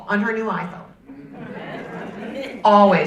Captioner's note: audience laughing